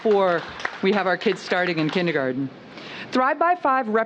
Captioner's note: applause